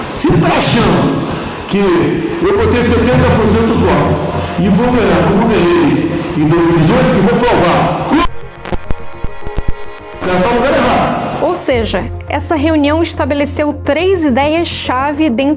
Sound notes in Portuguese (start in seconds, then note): 8.0 falha no áudio